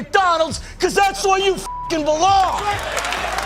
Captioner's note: beep